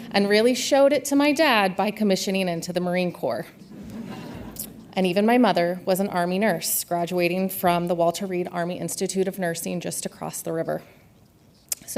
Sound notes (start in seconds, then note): 3.7 audience laughs